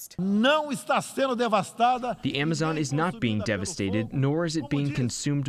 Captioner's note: through translator